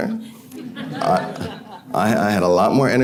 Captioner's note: audience laughing